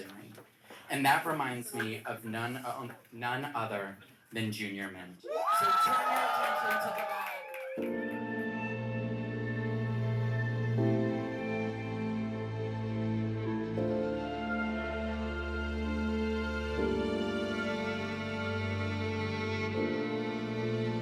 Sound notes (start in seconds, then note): 5.2 audience cheering; 7.9 gentle music